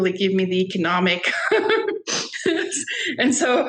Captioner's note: laughing